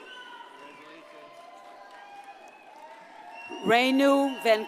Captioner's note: audience cheers and applauds